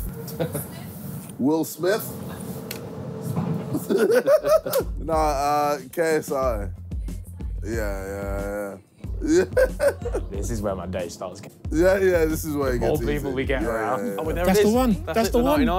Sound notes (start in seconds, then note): 3.7 laughing; 9.2 laughing